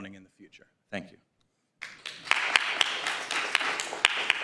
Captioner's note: applause